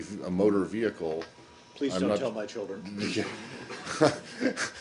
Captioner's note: laughter